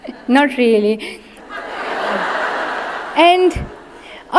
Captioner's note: audience laughs